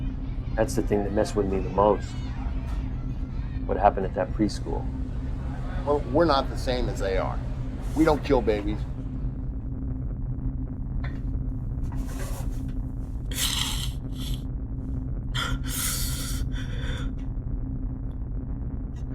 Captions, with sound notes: That's the thing that messed with me the most... what happened at that preschool. Well, we're not the same as they are. We don't kill babies. [sobbing]